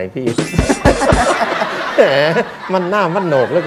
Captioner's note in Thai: หัวเราะ